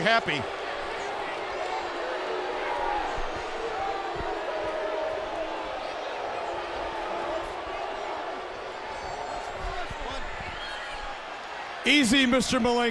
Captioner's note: crowd chatter